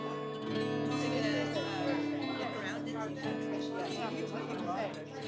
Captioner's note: all chattering